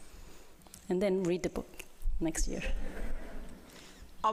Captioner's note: laughter